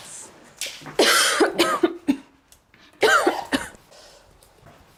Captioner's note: coughs